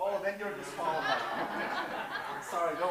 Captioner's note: laughter